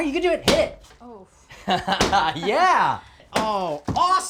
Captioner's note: laughs